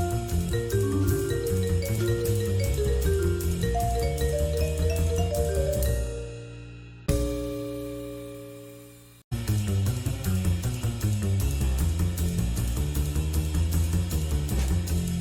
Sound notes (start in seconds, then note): none